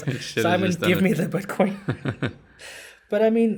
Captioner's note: laugh